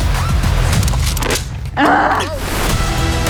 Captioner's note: upbeat music; groaning; upbeat music